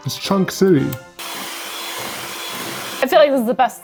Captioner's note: blender whirring